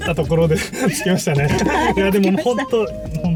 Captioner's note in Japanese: 笑い